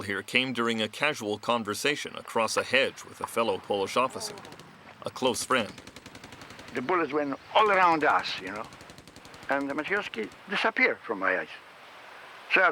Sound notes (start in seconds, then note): 5.3 gun fires